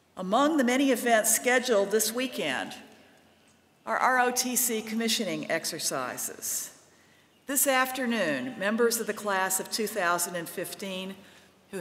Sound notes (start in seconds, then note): none